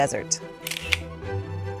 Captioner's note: camera shutter clicks